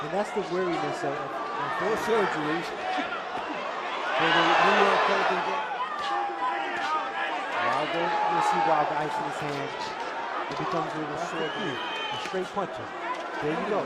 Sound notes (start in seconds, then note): 5.6 cheering